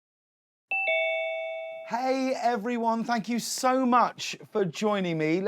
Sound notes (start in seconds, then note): 0.7 doorbell ringing